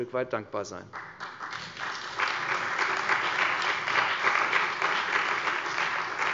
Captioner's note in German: Beifall bei der CDU und dem BÜNDNIS 90/DIE GRÜNEN